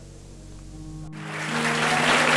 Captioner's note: applause